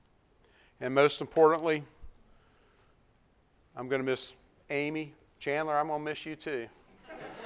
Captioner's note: laughs